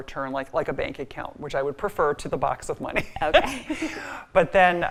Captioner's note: laughs